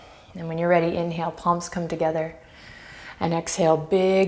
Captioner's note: deep breaths